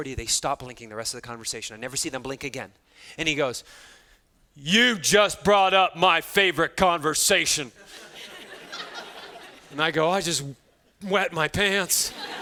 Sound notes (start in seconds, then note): 7.8 students laughing